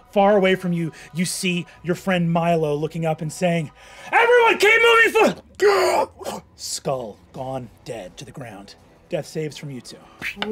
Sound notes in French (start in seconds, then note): 6.0 halète